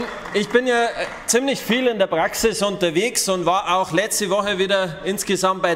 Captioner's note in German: Beifall bei den GRÜNEN